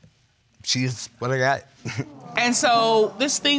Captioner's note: chuckles nervously